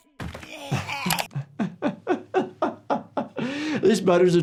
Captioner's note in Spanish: Cartman da un golpe sordo; El médico de urgencias se ríe